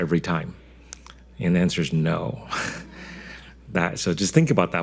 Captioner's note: scoffs